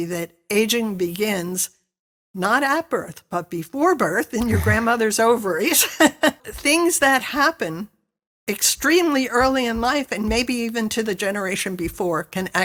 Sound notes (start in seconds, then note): 4.4 laughs